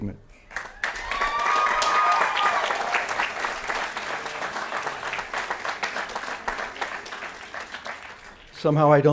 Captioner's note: applause & Cheering